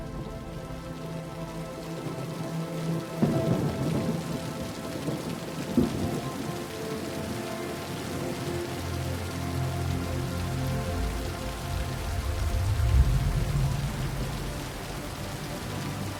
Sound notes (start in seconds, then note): 3.2 thunder continues